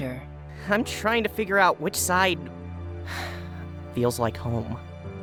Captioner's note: sigh